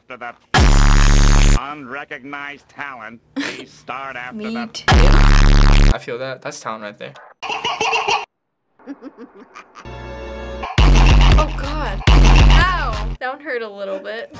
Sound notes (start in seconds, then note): 0.6 blaring bass; 3.4 chortles; 4.9 blaring bass; 8.8 Bart chuckles mischievously